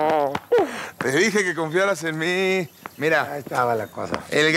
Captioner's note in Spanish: Silbidos